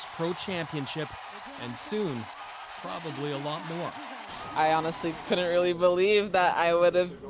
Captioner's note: cheers and applause